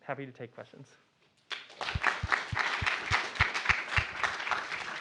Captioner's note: applause